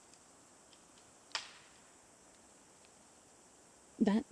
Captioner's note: crack